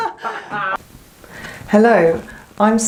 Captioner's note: laughter